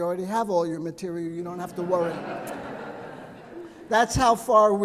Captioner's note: audience laughing